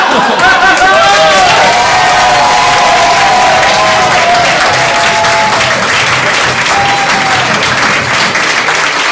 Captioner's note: audience laughing; applause